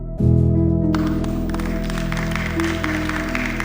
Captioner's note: audience applauding